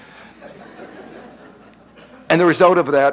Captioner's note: audience laughing